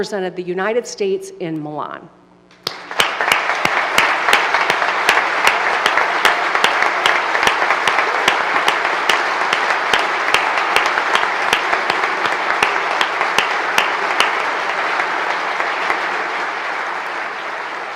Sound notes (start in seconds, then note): 5.6 applause